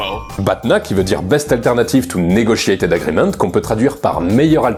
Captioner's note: in french